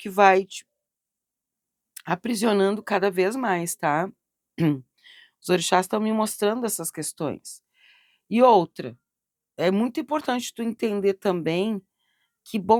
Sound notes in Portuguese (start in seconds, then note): 4.6 limpando a garganta